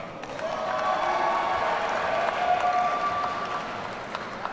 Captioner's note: audience cheering